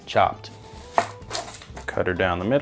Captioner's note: knife clicking